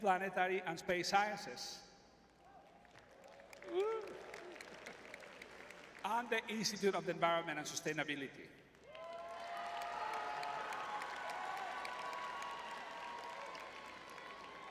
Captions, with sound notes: planetary, and space sciences. [crowd cheering] Woo. And the Institute of Environment and Sustainability. [crowd cheering]